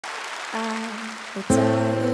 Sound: crowd clapping

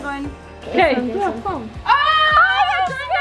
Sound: speaking faintly

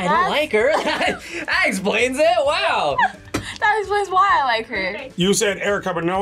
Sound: laughs

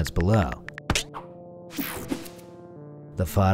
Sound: keys clicking

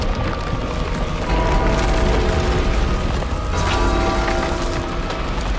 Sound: distorted bell tolls

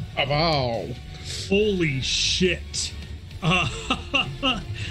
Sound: laughs

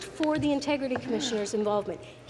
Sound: none

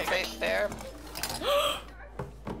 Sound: gasps

